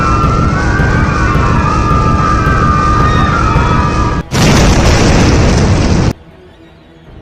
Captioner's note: explosion